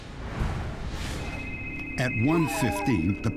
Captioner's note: phone rings